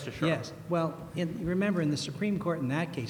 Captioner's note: voiceover